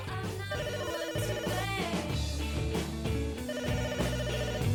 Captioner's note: phone ringing